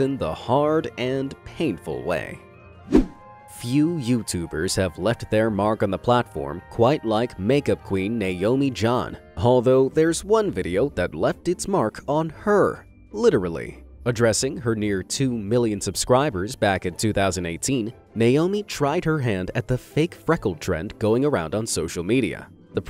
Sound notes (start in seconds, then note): 2.8 whooshing